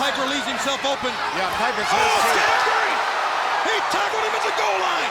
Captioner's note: speaks faintly